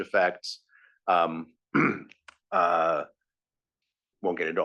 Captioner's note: cough